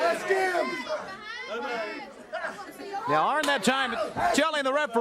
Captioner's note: crowd chatter